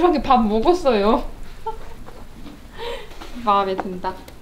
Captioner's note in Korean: 웃음